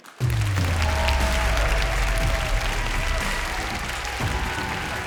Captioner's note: audience cheers; uplifting music